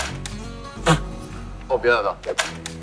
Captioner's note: laughing!